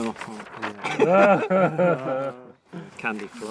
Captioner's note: laughter